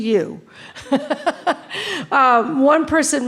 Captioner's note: laughing